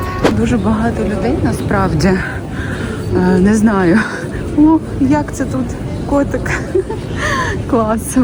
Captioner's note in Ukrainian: сміх